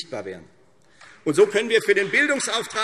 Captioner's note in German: Beifall Freie Demokraten